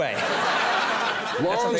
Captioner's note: audience laughs